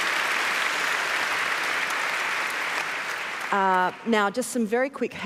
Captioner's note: cheering and applause